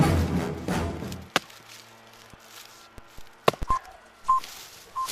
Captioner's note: phone beeps